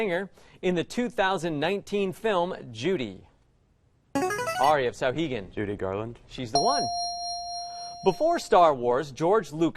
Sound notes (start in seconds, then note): 3.2 player buzzer; 6.6 ding